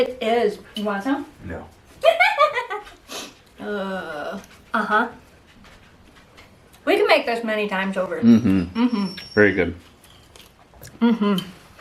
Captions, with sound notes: - It is! Want some? - No! [laughs] Aww! Aha! We can make this many times over. - Mmhum! - Mmhum! - Pretty good! - Mmhum!